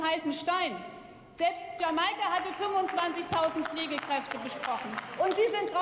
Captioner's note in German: Beifall